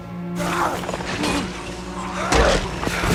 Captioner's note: grunting